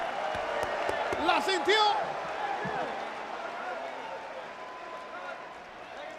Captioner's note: applause